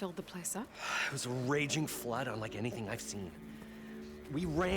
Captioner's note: sigh